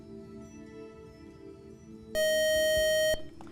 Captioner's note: buzzer